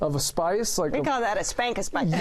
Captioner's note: laughter